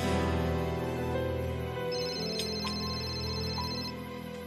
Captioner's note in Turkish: Telefon çalar